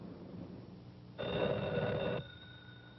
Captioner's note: phone ringing